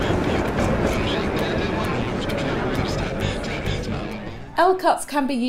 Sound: club patrons conversing

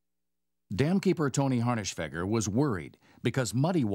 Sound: voiceover

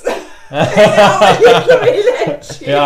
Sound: laughes

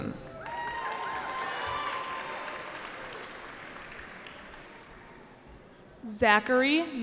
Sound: cheering

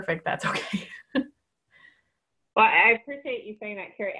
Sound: laughing

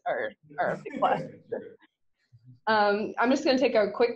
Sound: laughing

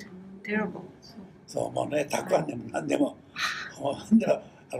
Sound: foreign language

